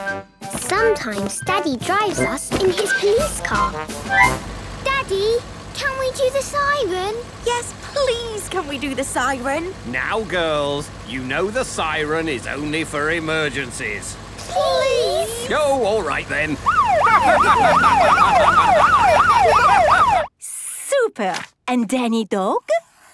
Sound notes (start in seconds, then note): 16.6 siren wailing; 18.7 laughing